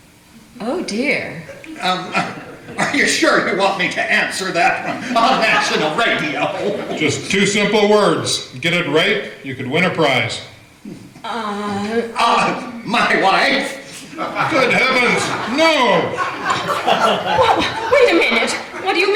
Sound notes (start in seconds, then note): 10.5 both stammer; 16.2 laughter